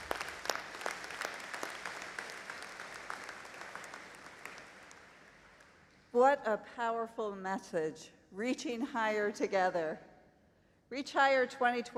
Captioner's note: applause